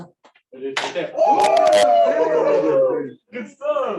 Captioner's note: cheers